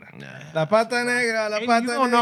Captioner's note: non-english Speech